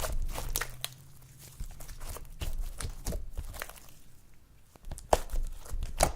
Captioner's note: slime popping sounds